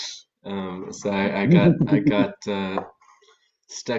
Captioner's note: soft laugh